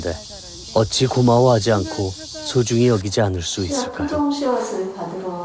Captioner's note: voiceover